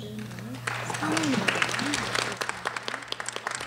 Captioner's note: applause